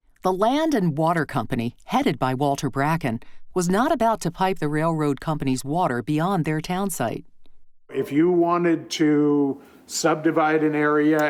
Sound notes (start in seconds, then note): none